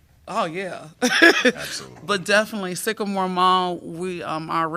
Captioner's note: laughter